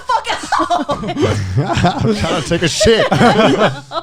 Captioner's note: laughing